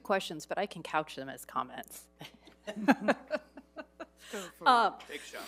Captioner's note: chuckles